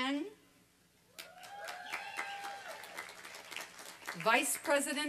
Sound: applause and cheering

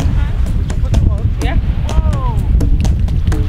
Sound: woahh!

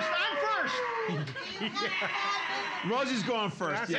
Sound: laughing

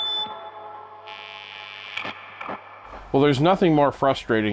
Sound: electricity buzzing

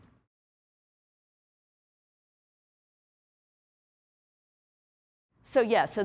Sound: silence

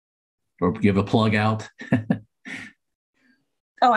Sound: laughter

